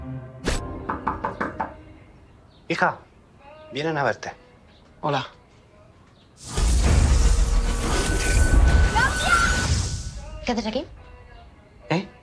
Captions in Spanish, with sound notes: (Llaman a la puerta) Hija, vienen a verte. Hola. ¡Claudia! ¿Qué haces aquí? ¿Eh?